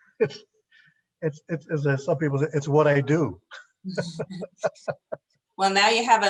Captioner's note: laughs